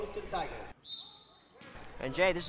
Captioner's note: whistle blows